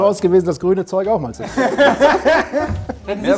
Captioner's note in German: Lachen